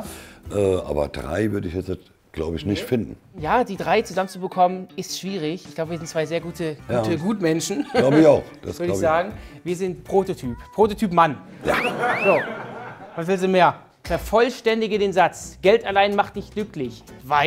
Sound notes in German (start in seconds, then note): 11.6 Gelächter